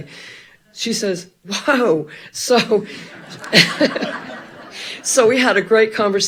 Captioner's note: all laughing